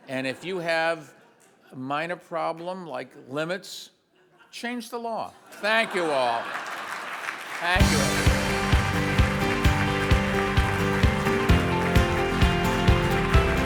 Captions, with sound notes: and if you have a minor problem, like limits, change the law, thank you all. (audience laughs and applauds) (upbeat music)